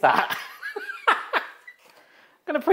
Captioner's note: laughs